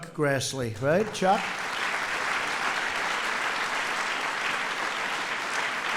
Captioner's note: applause